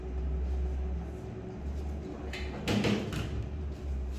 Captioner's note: oven door opening